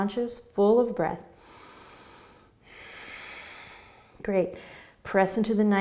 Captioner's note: deep breathing